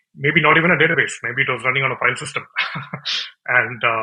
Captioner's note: laughs